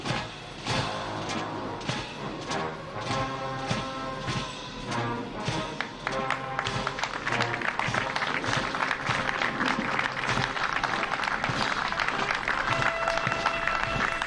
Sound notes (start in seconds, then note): 6.5 applause